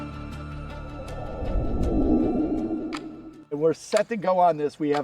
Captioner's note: clock ticking